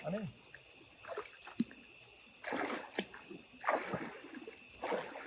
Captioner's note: splashing through water